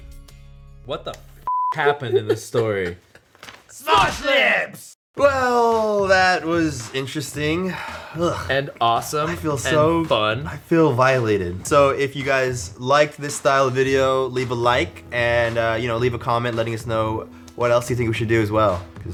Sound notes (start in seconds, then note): 7.6 sighs